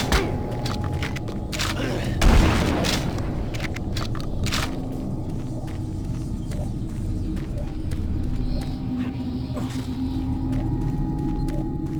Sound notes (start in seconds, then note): 0.1 ominous music; 3.9 gun firing; 5.1 ominous music